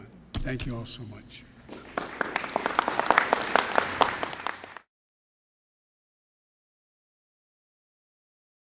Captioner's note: applause